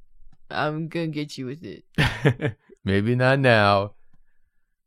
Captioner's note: laughs